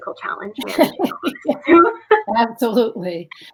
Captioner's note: both laugh